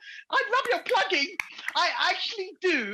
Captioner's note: clapping